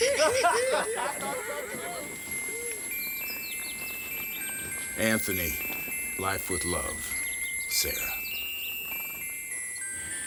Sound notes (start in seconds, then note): 0.0 gang members laugh; 1.8 pocket watch chimes melodically